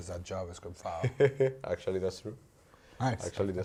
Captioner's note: laughs